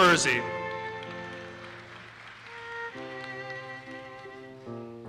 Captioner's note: audience applauses